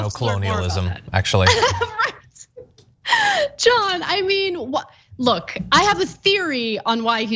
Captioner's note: laugh